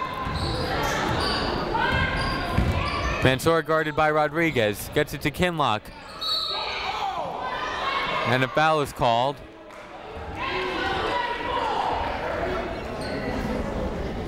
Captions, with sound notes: (people shouting in the crowd) Mansour guarded by Rodriguez. Gets it to Kinloch. (whistle tweeting) And a foul is called. (people shouting in the crowd)